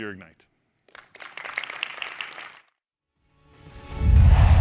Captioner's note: applause